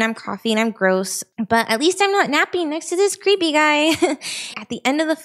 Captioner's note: chuckles